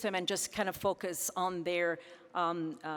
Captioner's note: none